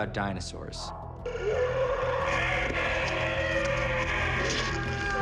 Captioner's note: howling